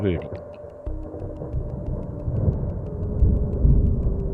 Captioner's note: thunder rumbling in the distance